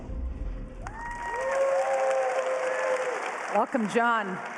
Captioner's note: applause